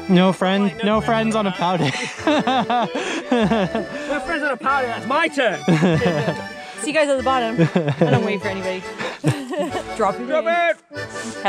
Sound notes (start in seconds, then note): 1.6 laughing; 5.5 laughing